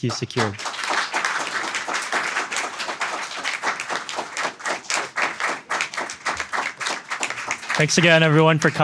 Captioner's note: applause